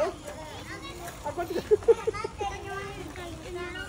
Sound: laughing

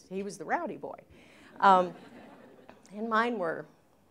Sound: laughter

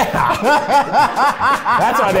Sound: laughing

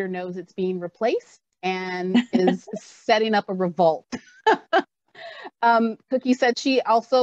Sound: laughs

